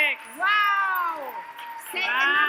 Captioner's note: audience cheers